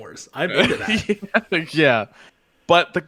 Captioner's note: laughs